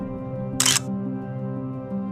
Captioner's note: the sound of a Photo